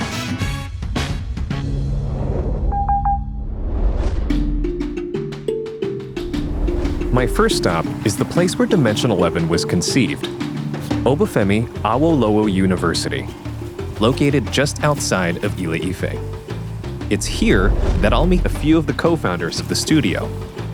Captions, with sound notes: [beeping] [upbeat music] My first stop is the place where Dimension11 was conceived. Obafemi Awolowo University, located just outside of Ile-Ife. It's here that I'll meet a few of the co-founders of the studio.